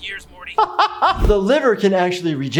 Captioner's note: laughing